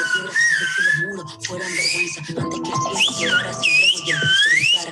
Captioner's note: whistling sounds from the video